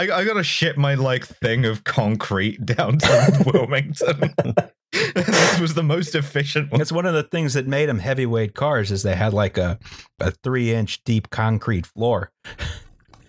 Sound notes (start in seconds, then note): 2.9 laughter